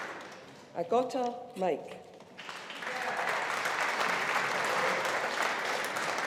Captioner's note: audience applauding